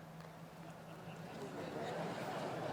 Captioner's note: laughter